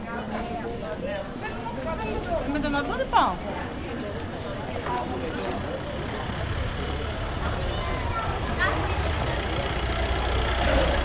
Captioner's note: people chattering